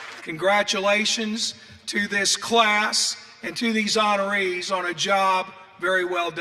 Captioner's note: applause